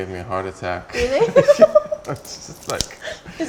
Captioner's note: laughs